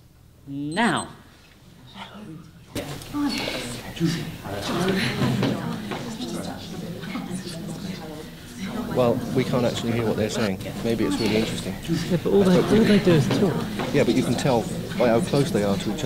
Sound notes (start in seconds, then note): 2.2 people murmuring